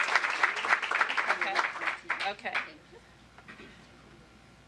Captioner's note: applause